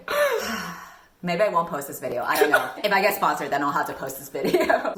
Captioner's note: sighing